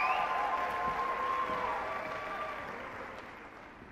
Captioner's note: applause